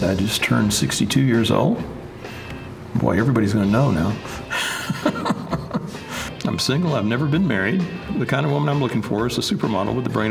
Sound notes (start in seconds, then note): 4.5 laughs